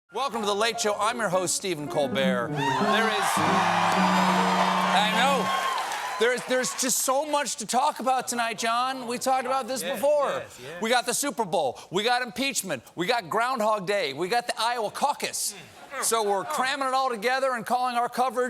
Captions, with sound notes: WELCOME TO "THE LATE SHOW." I'M YOUR HOST, STEPHEN COLBERT. THERE IS -- ( CHEERS AND APPLAUSE ) I KNOW! THERE'S JUST SO MUCH TO TALK ABOUT TONIGHT, JON. WE TALKED ABOUT THIS BEFORE. WE'VE GOT THE SUPER BOWL! IMPEACHMENT! GROUNDHOG DAY! THE IOWA CAUCUS! SO WE'RE CALLING OUR COVERAGE: "SUPER PEACH HOG-CAUC!"